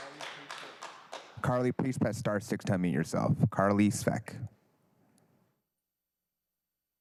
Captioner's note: applause